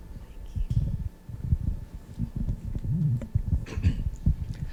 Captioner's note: mic rustling